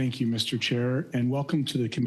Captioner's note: speaking French